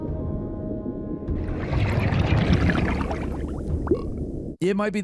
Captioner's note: water bubbling; fish burping